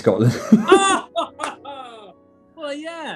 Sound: laughing

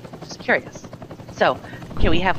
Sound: helicopter whirring

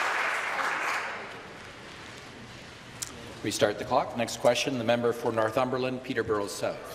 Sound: applause

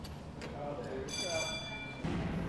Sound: bell rings

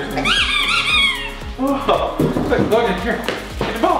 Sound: laughs; dog toy squeaks

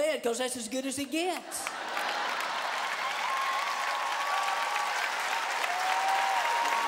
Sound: cheers and applause

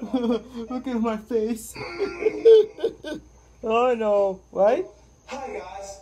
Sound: grunting

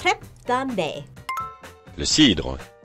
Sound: bell rings

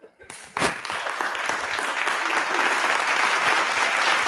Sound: applause

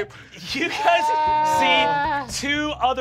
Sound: moans

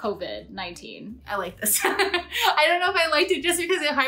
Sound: laughs

